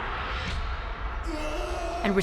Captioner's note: groaning